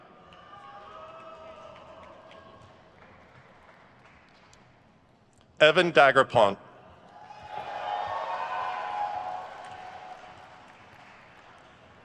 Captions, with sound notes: Evan Daigrepont. (crowd cheers)